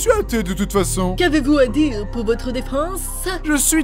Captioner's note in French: Voix féminisée